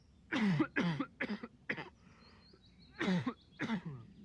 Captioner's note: Chance coughing